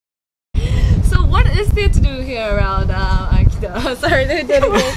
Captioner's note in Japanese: 笑い出してしまう